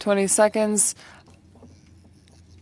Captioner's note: speaking French